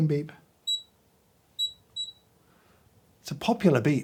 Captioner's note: scale beeping